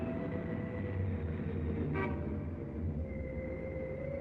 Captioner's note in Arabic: بوق سيارة